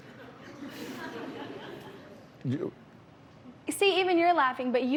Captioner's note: laughter